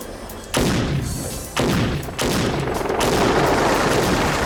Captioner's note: gunshots booming